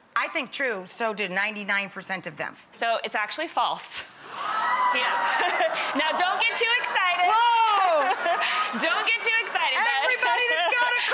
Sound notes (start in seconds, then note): 4.3 audience screaming; 7.2 laughing; 7.2 laughs